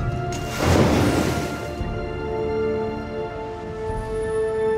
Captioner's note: oysters crashing